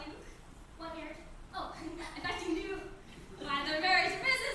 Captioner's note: giggles